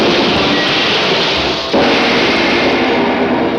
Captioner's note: splashing; dramatic music